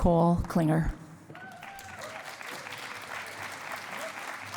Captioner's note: cheering and applause